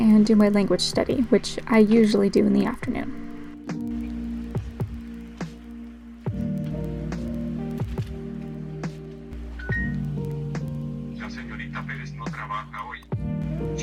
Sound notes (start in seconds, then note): 9.6 ding